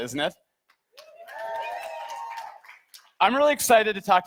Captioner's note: audience cheers